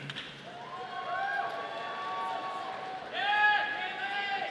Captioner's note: audience applauding